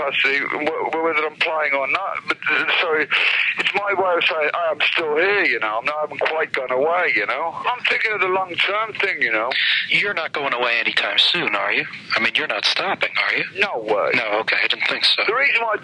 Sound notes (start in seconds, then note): none